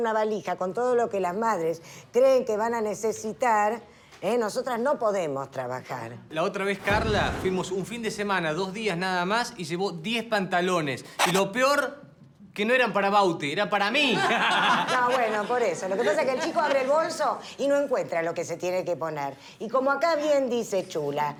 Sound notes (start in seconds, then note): 14.0 Risas